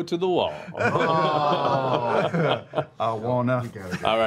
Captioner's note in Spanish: risas y gruñidos